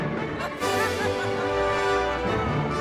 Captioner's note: dramatic orchestral music; woman laughing; dramatic orchestral music